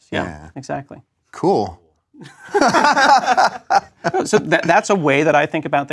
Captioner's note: laugh